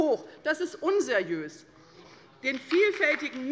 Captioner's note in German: Beifall bei der LINKEN